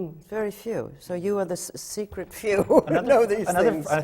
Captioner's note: laughs